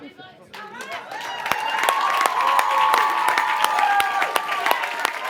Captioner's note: cheering and Applause